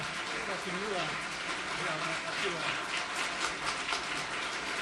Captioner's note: crowd chatting